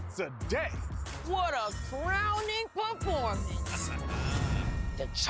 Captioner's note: chuckles